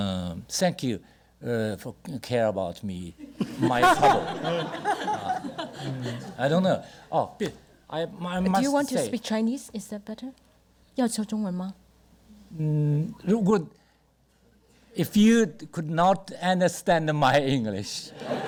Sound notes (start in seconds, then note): 3.3 audience laughter; 11.3 speaks Mandarin